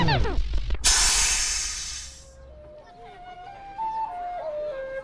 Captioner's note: machine hissing